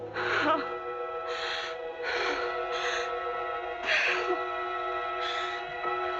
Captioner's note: gasping